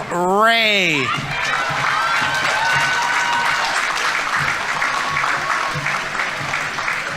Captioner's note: audience members cheering; audience applauding